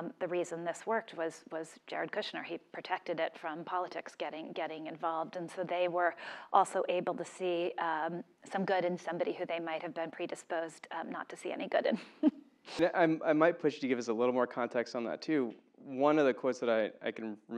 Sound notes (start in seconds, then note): 12.1 laugh